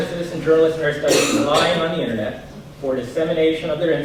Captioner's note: coughing drowns out speaker